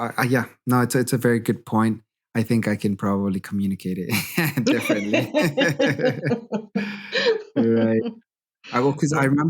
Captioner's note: laughter